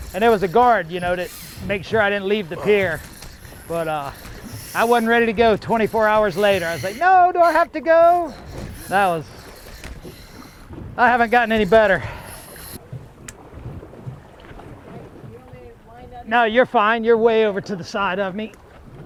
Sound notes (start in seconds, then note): 15.1 muttering